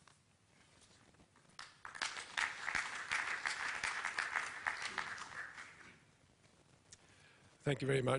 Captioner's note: applause